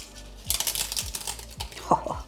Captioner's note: crunch